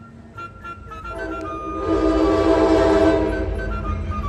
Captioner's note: train horn